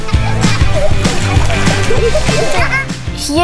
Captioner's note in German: Kinder lachen